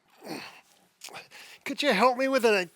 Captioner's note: groaning